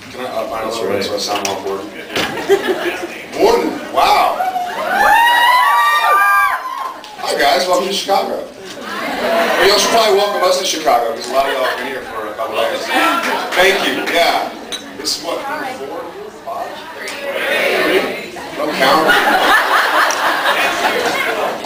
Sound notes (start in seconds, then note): 2.2 laughs; 4.2 cheers, screams; 18.9 laughs